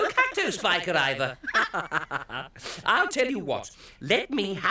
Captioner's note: laughing